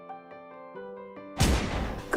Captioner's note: gunshot